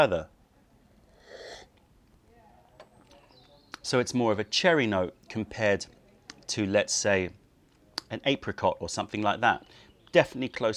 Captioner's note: sips tea